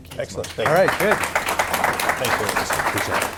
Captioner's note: audience applauding